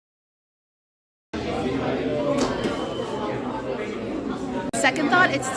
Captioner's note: background chatter